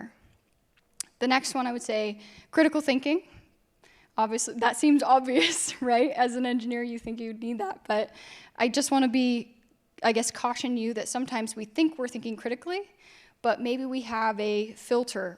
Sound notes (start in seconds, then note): 6.5 laughs